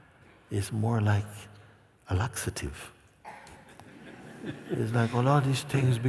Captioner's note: laughter